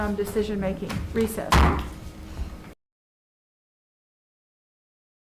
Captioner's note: gavel bangs